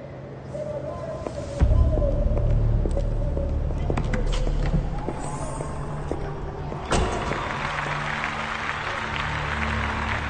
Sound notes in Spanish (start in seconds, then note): 4.7 Aclamaciones; 4.7 Aplausos